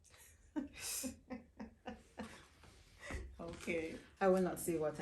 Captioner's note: chuckling